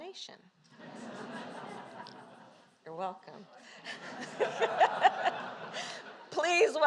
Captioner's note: laughter